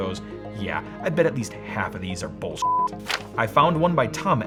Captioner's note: beep